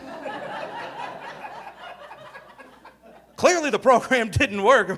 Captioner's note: audience laughing